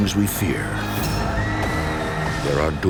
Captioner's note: screaming